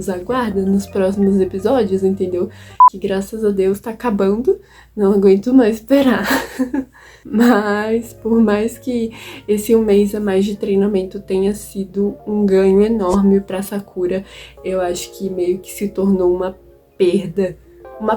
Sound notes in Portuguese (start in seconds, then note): 6.2 risos